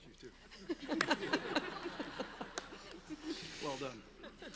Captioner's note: everyone laughing